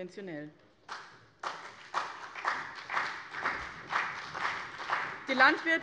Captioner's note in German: Beifall bei dem BÜNDNIS 90/DIE GRÜNEN und der CDU